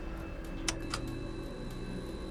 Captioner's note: button clicks; clock ticking; tense music